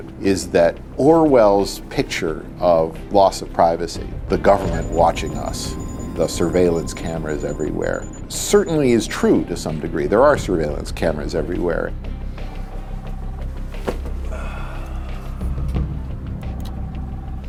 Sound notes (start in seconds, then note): 12.3 dramatic music; 14.2 man sighs